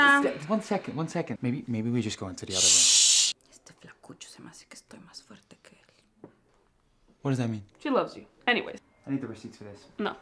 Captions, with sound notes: One second one second. Maybe-maybe we just go into the other room Shhhhhhhhhhhh! (speaks spanish) What does that mean? She loves you, anyways... I need the receipts for this No